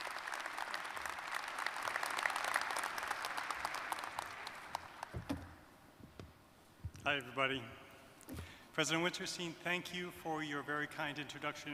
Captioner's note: applause